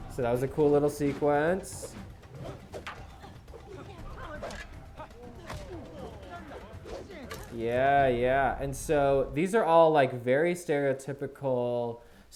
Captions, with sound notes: So that was a cool little sequence. (fighters grunting and breathing hard) Yeah, and so these are all like very stereotypical